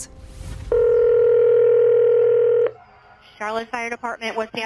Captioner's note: phone rings